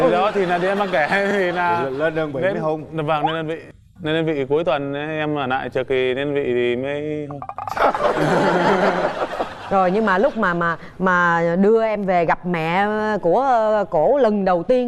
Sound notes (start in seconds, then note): 7.4 laughing